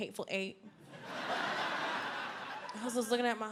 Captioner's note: audience laughs